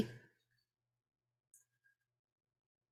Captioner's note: silence